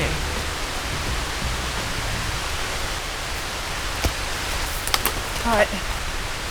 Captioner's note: rain